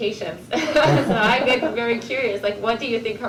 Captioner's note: laughs